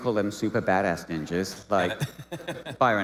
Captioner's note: laughing